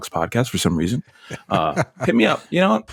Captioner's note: laughter